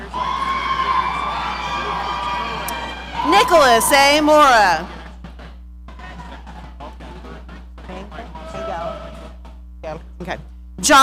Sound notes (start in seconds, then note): 0.0 audience cheering